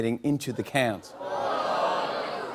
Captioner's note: audience groans